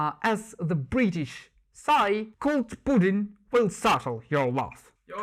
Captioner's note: maximum English accent